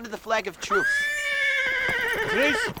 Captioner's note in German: Pferd wiehert